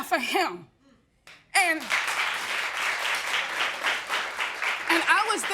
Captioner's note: all applauding